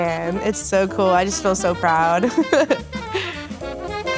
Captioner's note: chuckling; upbeat jazz music